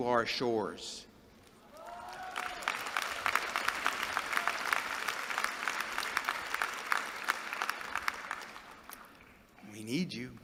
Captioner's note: applause